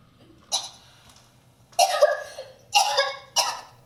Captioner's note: Phoebe coughs